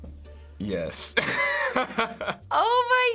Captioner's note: laughing; laughs